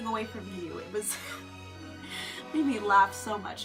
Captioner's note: laugh